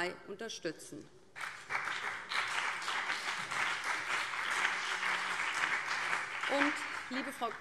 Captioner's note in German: Beifall BÜNDNIS 90/DIE GRÜNEN und CDU